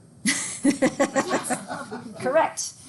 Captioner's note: instructor laughing